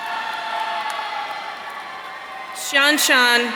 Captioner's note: audience cheering